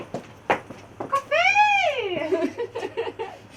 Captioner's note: laughter